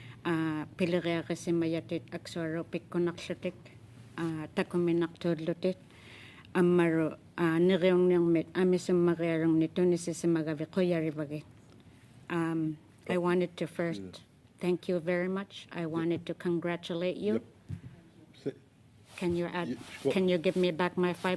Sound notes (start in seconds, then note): 4.8 speaking Alternate Language